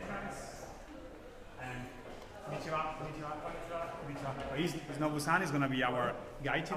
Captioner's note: speaks in foreign language